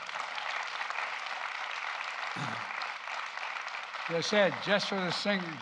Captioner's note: applause